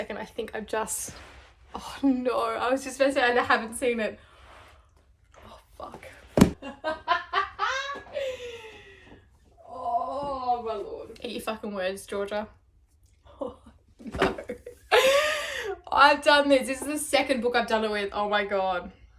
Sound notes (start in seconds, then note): 6.6 laughter